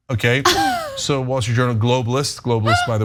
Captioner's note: laugh